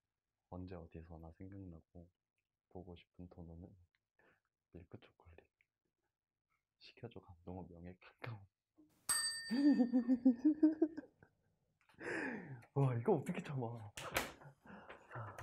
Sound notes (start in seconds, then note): 9.1 chime